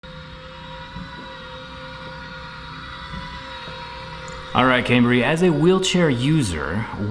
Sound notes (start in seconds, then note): 0.0 quiet electric motor sounds